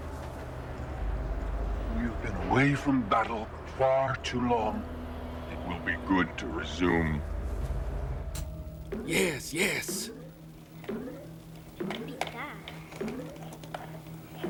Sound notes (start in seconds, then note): 8.1 electronic boinging